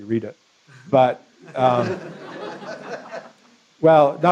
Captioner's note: laughter